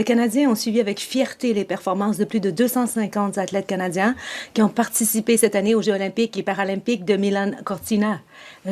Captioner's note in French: voix de l'interprète